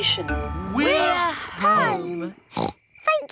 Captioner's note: oinks